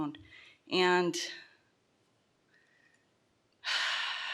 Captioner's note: sighs